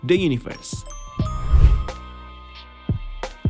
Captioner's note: transition sound; soft music